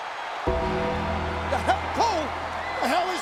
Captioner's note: bell tolls